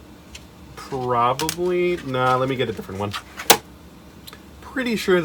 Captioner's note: smack